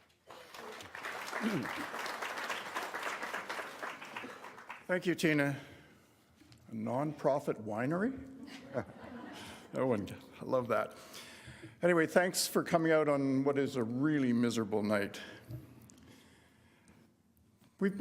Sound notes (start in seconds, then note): 0.0 applause; 8.4 laughter